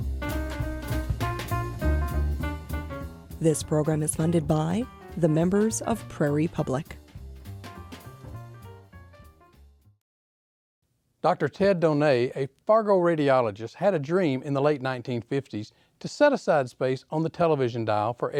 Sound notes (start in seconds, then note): 3.4 voiceover